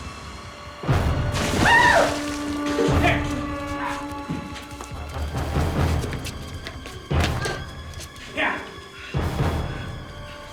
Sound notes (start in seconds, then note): 1.4 screams; 10.3 panting